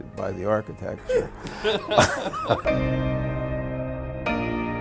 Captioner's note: laughing